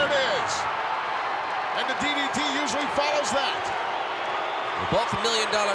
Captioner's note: applause